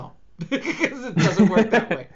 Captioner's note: laughs